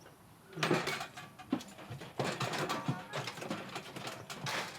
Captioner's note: gates rattling